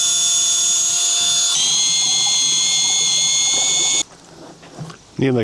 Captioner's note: motor whirring